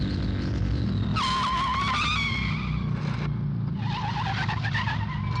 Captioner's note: tyres squealing